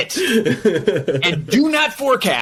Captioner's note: laughs